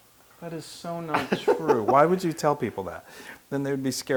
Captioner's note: laugh